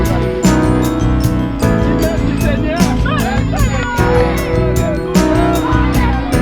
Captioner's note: celebrating/cheering in Creole